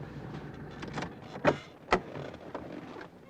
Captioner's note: car door opens